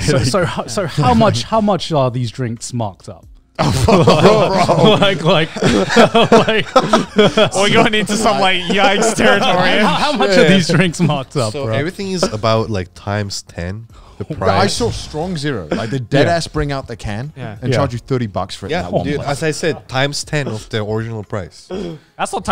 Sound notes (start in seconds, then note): 3.6 all laughing; 3.8 group chattering